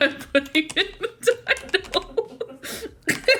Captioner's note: laughs